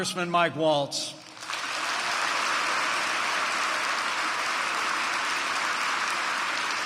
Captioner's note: applause